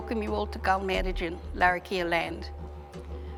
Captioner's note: speaks foreign language